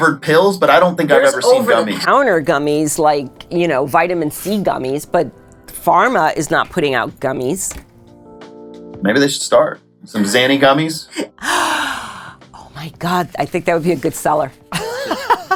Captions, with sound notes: pills, but I don't think I've ever seen gummies. - There's over the counter gummies like, you know, vitamin C gummies, but pharma is not putting out gummies - Maybe they should start. Some zany gummies. - (gasp) Oh my god, I think that would be a good seller.